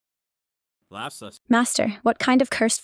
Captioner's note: laughs